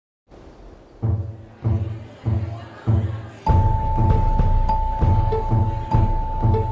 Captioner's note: crowd chattering; pleasant orchestral music